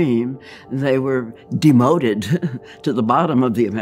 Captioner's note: chuckles